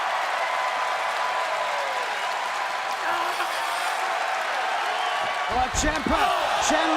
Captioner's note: crowd cheering